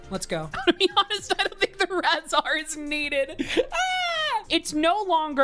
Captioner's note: laughs